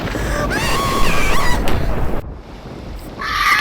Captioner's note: screams